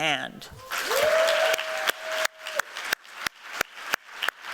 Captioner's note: cheeers and applause